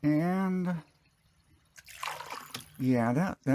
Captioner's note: fuel splashing